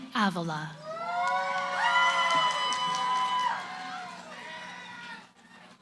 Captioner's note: cheering